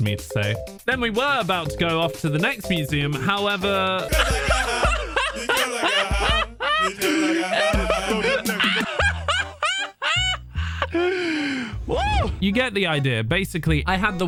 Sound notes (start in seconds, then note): 4.0 laughter